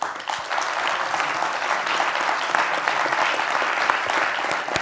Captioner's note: applause